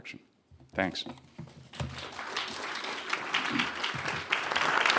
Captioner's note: clapping